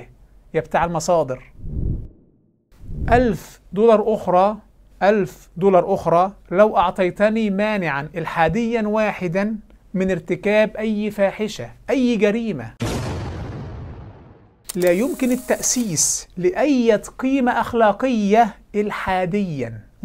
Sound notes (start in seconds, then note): 12.8 sound effect